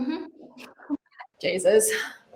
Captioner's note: laughs